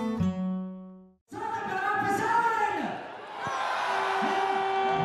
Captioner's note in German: Mann, über Lautsprecher